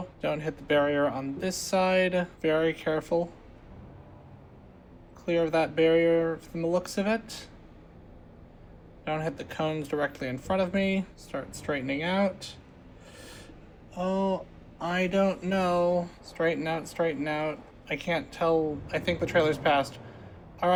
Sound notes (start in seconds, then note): 13.0 gasp